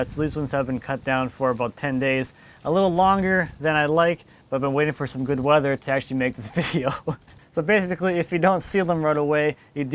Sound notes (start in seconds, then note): 6.5 laughs